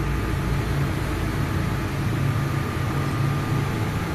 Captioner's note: machinery humming